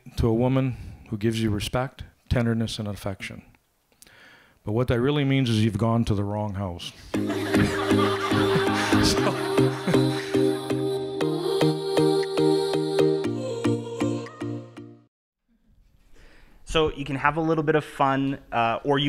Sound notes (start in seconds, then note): 7.2 laughter; 9.5 upbeat music; 13.5 music fades